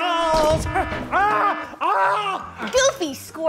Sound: screams; alarm blares

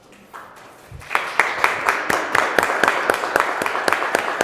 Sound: applause

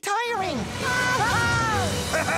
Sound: screaming; laughing

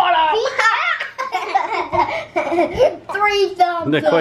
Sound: laughing

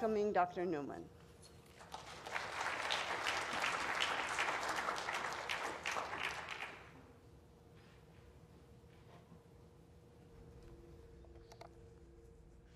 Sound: applause

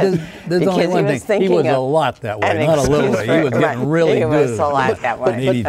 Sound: laughing

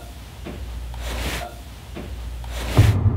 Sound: drawer rasping; floor thumps; gentle ominous music

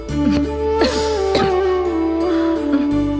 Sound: coughs

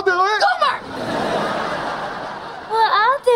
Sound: laughing

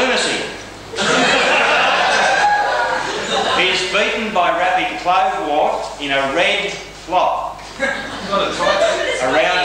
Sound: laughter

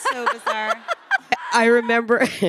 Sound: Samantha laughing

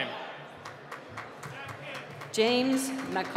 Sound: applause

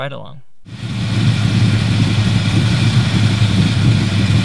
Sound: car engine roaring

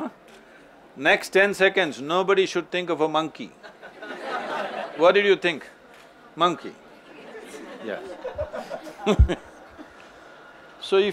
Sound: laughter

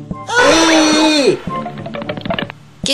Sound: aaaahhh !!!

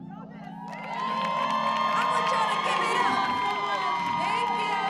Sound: audience cheering

